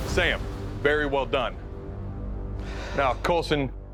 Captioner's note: exhales deeply